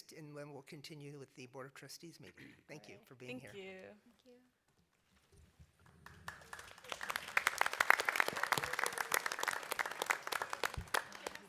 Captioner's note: applause